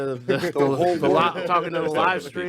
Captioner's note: group chattering